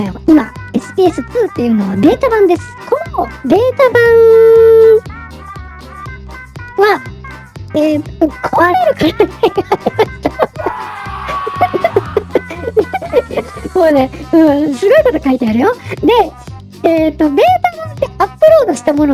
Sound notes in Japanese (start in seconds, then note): 9.1 笑い